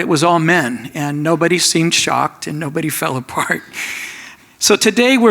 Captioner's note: laughs